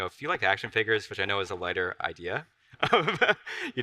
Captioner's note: laughs